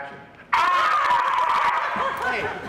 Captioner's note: screaming; laughing